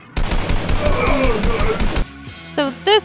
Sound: gun shots firing

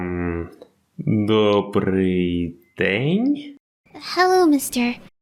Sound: Ukrainian

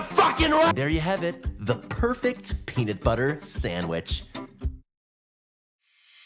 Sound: calm voice

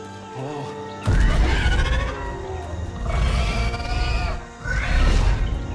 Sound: creature bellows, roars

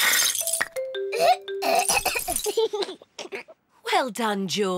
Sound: splutters; giggles

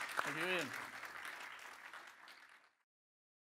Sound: applause

